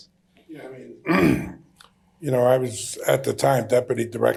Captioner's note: clears throat